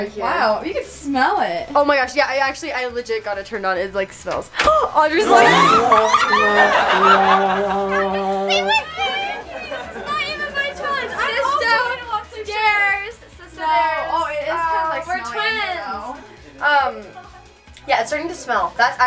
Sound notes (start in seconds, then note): 5.1 crowd laughs; 5.3 gasps; 6.3 sad trombone womping